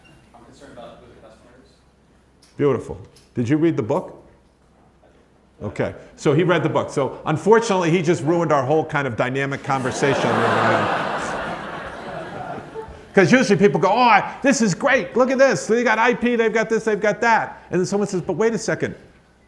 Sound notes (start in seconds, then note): 9.6 audience laughs